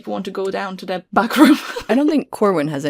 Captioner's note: laughs